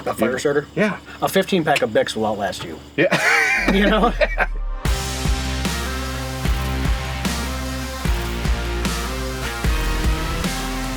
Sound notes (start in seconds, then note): 3.0 laughs; 3.6 hard rock music